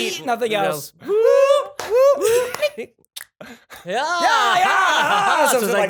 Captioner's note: speaking in gibberish